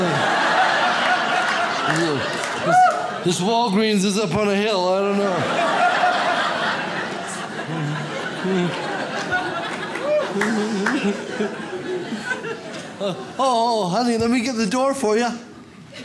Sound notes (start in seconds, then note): 0.0 audience laughs; 5.0 audience laughs; 15.8 audience laughs